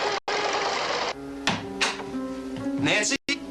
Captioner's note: none